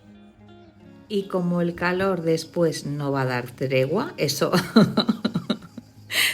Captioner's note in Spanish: risas